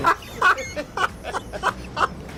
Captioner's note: laughs